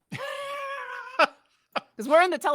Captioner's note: laughs